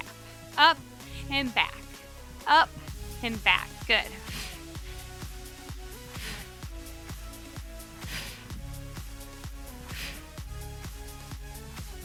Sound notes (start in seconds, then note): 4.0 breathing deeply; 4.4 upbeat music continuous